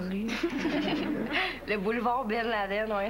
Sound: Rires

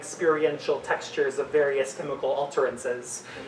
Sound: none

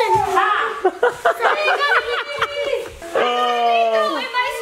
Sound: laughs

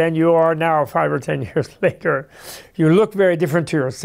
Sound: laughs

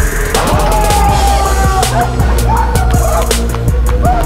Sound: crowd cheering

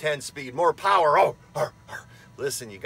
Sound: grunting like Tim Allen

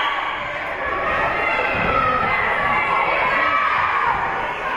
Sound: whistle being blown; team chanting

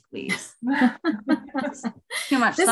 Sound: laughing

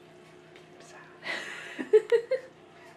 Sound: whispered

